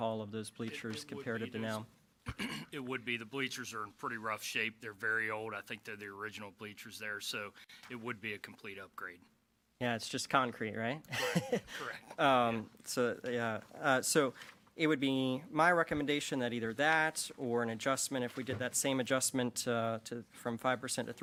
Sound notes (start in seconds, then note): 11.1 laughing